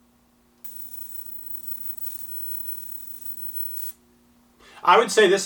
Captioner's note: high pitched hissing